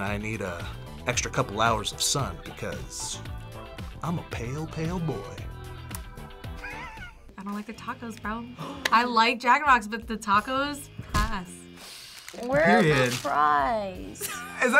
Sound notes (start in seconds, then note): 6.5 kisses; 6.6 laughs; 13.8 React laughs